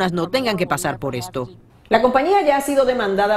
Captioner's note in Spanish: habla en ingés